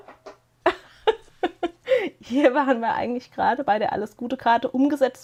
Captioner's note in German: gelächter